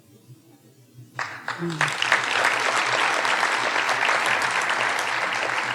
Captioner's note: audience applauding